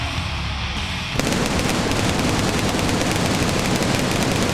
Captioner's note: fireworks popping